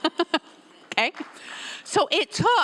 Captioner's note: laughs; audience members applauding